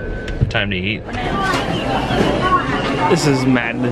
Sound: chattering

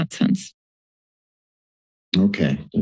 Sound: silence

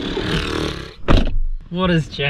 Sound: sighing

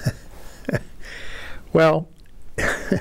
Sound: laughter

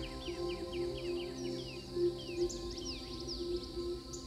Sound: birds singing

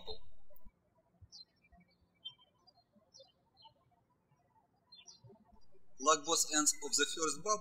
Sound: birds chirping

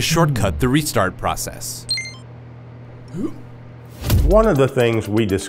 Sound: beeping

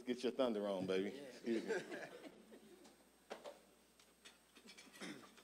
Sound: audience chuckling

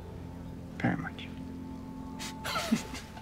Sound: laughs

